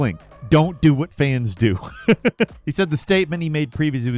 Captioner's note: laughs